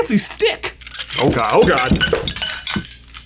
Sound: wands clattering

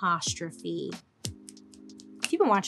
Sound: fingernails clicking

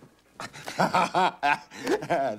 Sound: laughing

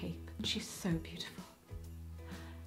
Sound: sighing

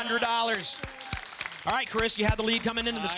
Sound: audience applause

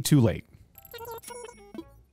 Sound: cash register dings

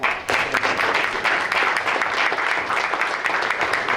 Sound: applause

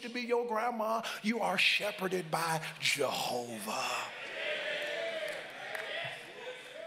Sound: congregants call out

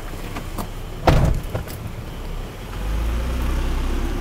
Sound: car door thuds; car revving

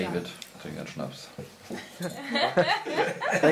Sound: laughter

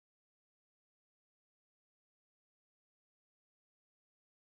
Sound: none

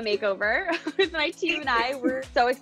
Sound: both laughing

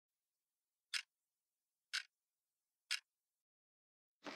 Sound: clock ticking

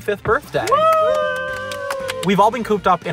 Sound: cheering

